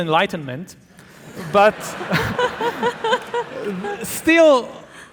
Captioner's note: audience laughing